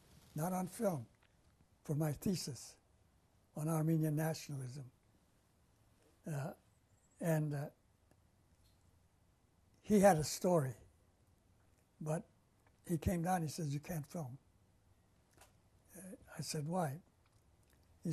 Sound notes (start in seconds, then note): 4.5 pauses for 3 seconds